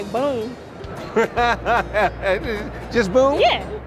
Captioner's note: laughter